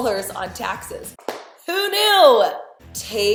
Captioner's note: hand slap